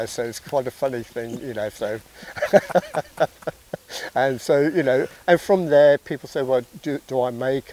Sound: laughs

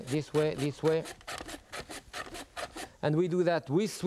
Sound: mandolin slicing

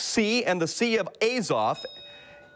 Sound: bell rings

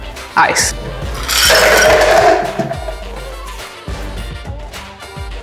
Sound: ice cubes splashing

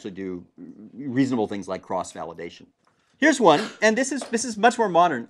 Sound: cough

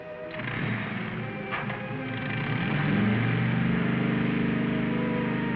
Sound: motorcycle starts and leaves

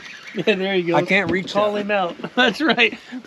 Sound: chuckling

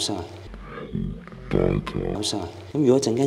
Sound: recorded "Er" sound

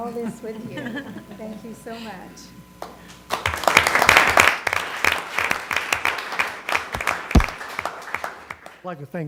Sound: applause

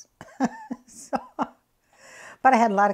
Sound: laughs

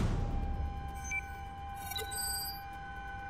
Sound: blips, bleeps

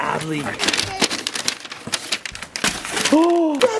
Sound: paper rustling

